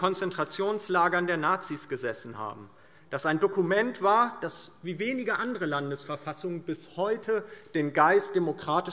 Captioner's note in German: none